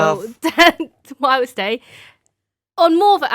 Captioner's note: person laughing